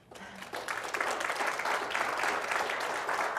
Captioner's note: applause